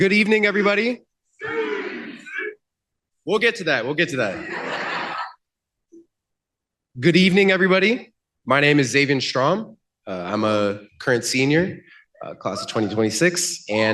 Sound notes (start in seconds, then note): 1.8 shouting